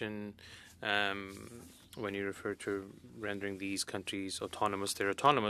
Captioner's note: speaking French